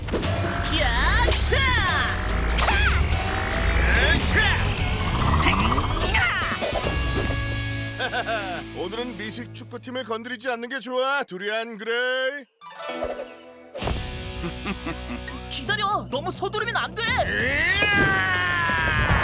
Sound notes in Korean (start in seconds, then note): 0.5 닌자들 기합 소리; 7.9 랄프 웃음소리; 14.3 두리안 웃는 소리; 17.2 외치는 소리